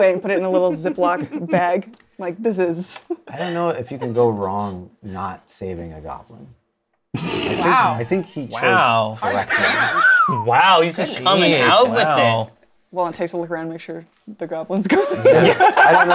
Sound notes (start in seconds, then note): 7.2 snorts; 10.0 whistles; 14.9 laughter